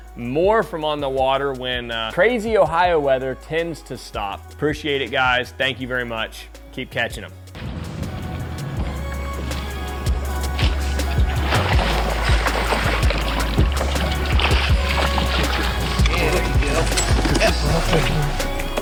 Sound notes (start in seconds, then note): 7.9 water splashing